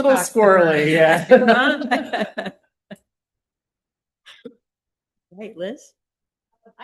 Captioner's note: laughter